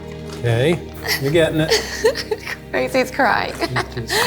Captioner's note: laughs